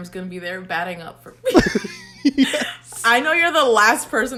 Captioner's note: both laugh